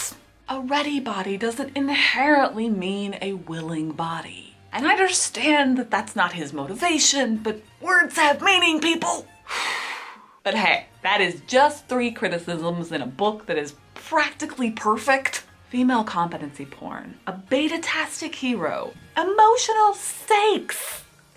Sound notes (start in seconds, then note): 9.4 sighs